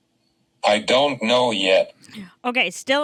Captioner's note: voiceover